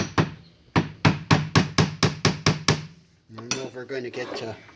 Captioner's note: hammer banging